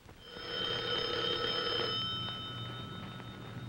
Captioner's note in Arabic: يرن الهاتف